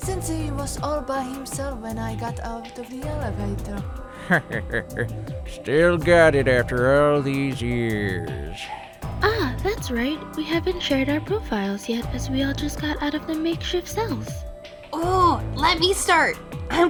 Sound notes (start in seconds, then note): 4.1 chuckle